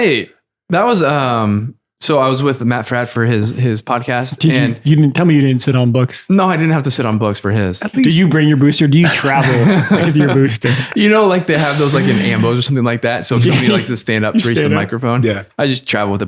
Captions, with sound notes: - Hey, that was, so I was with Matt Fradd for his podcast. - Tell me you didn't sit on books. - No, I didn't have to sit on books for his. - Do you bring your booster? Do you travel with your booster? (laughter) - You know, like they have those like in ambos, or something like that, so if somebody likes to stand up to reach the microphone. - Yeah.